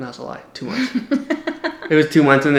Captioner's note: laughs